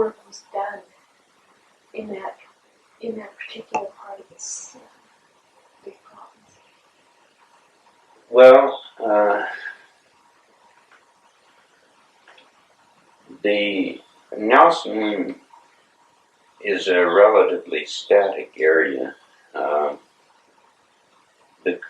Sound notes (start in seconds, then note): 9.4 sighs